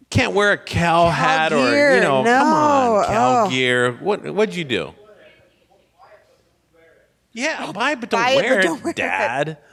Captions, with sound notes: Can't wear a Cal hat, - Cal gear. No. - Come on. Cal gear. What'd you do? (person speaking off mic) Yeah. Buy it, but don't wear it, dad.